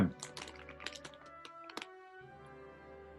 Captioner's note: crisp packet rustles